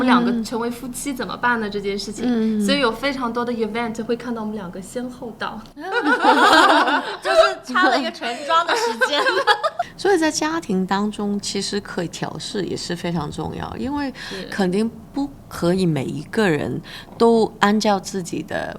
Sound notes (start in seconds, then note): 5.8 laughter